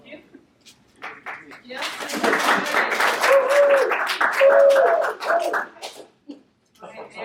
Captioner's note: audience Clapping